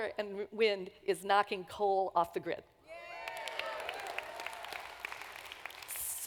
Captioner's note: applause